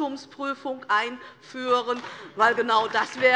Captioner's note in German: Beifall DIE LINKE